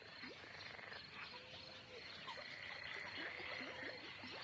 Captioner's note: toads croaking